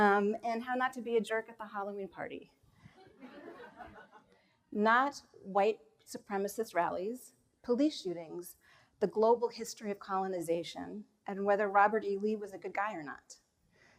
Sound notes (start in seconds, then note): 3.1 audience chuckles